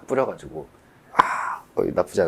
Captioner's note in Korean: 감탄